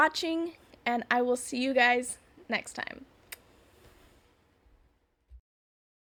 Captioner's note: kisses